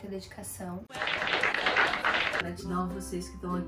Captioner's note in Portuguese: Aplausos